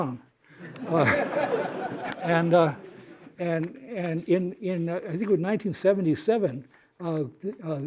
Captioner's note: laughter